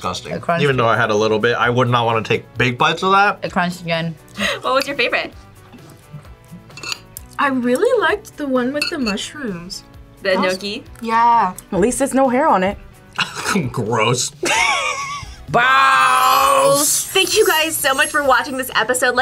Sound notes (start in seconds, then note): 14.3 laughs